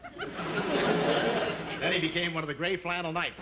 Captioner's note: audience laughing